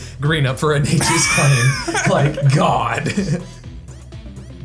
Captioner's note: laughing